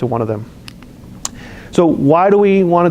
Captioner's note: lip smacks